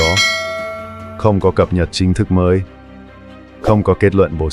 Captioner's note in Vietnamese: chuông